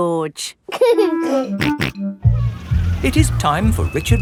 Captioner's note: giggling and snorting